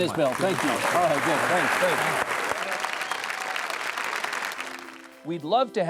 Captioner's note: audience applauding